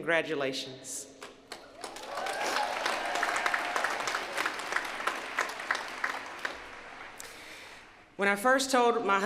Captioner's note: applause